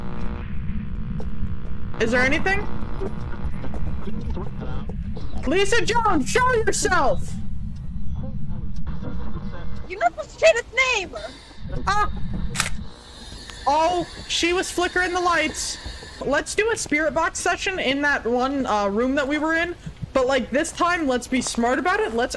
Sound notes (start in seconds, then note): 10.9 yelps